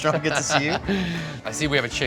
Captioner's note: laughs